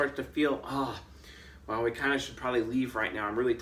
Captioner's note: exclaims